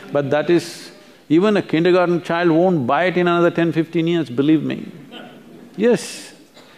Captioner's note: few laugh